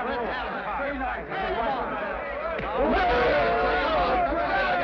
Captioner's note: men shout